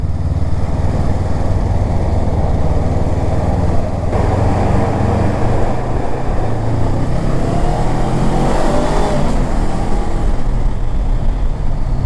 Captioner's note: bike thrum